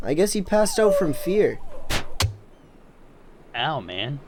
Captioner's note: stabby noise